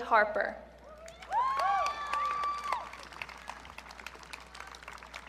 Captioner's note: audience cheering